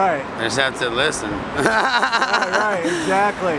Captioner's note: laughs